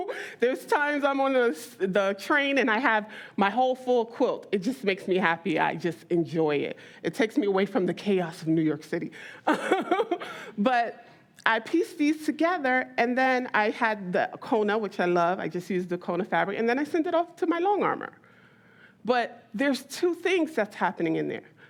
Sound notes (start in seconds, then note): 9.5 laughs